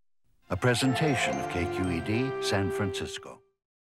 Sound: voiceover

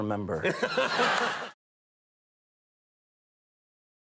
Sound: audience laughing

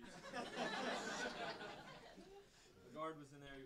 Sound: audience laughing

